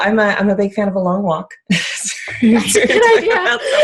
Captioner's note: laughter